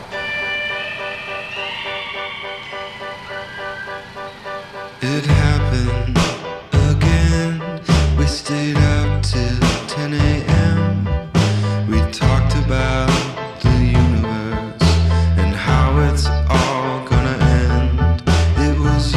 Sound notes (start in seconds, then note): 3.2 distant scream